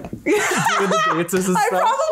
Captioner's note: laughs